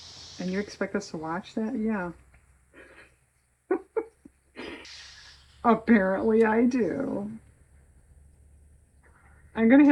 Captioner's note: laughs